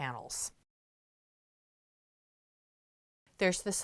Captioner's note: no Sound Present